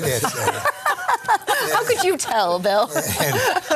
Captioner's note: laughing